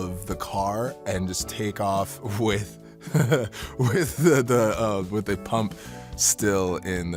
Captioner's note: laughs